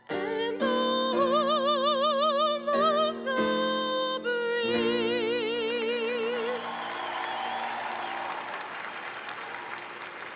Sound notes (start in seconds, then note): 6.0 audience applauding